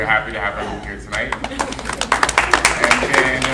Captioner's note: audience clapping